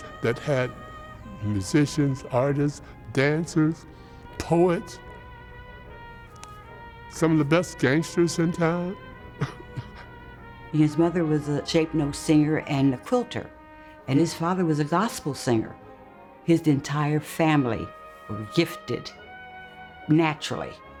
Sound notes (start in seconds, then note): 5.9 lively jazz music; 9.3 laughs